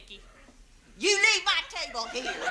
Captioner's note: audience laughs